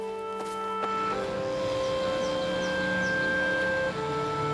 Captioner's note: machinery whirring